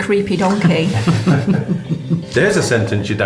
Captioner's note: laughing